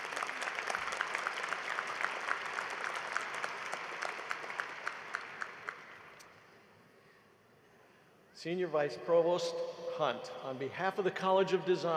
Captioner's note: applause